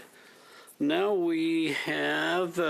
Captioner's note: speaking in French